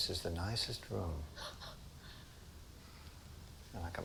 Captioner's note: Laura chuckles